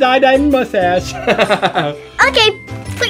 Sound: Mr. Engineer laughing

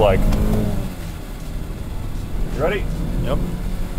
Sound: engine revving

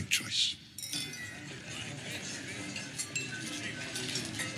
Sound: people chatter

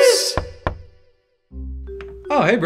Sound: knocking

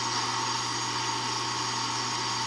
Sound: vacuum

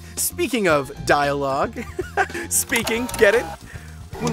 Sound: laughing

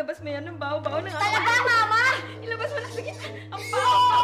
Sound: squeals

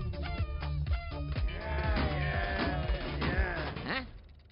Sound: party horn; apathetic cheering

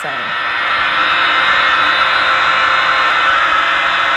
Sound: static buzz

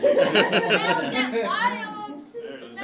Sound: laughing

